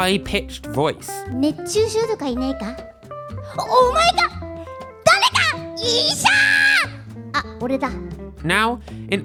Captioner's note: japanese dialogue